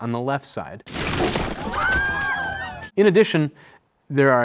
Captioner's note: body crashing; mourners screaming